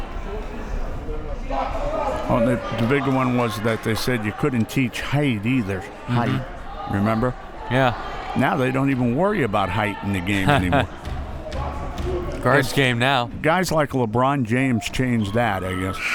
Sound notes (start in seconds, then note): 10.3 laughs